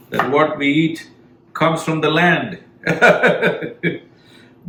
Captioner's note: laughs